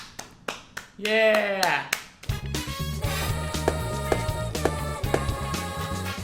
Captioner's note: evasive clapping